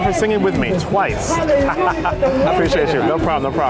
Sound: laughs

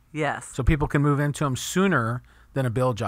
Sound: voiceover

